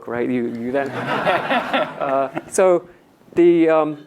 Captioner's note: audience laughs